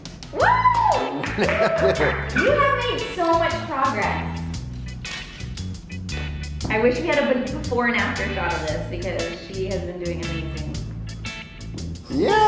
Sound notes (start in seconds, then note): 1.1 laughs; 5.2 island music